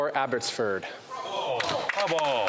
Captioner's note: some Applause